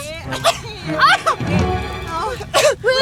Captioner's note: all Coughing